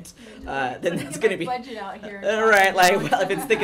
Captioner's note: background talking